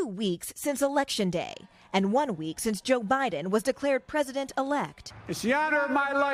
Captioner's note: chants